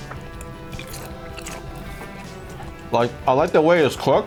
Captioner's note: chews